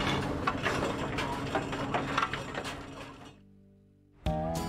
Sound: metal clanging; upbeat country music

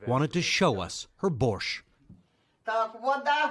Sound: speaking foreign language

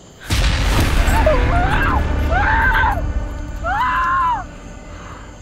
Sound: muffled screaming

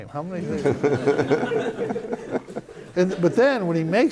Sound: laughter

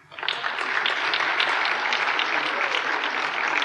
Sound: applause

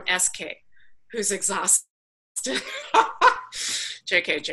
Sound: laughs

